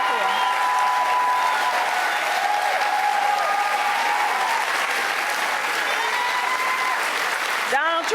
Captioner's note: cheers and applause